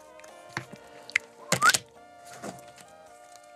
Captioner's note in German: Pfiff, Mischgeräusche